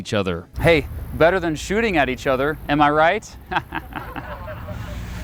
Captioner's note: awkward laugh